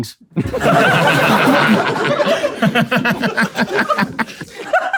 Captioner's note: people in room laughing